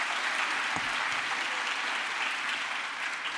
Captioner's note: crowd applause